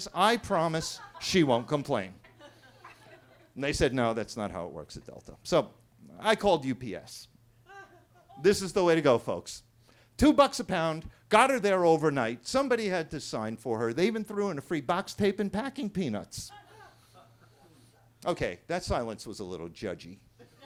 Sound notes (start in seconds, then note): 2.2 attendees laughing; 7.6 attendee laughing; 16.5 attendees laughing; 20.4 attendees laughing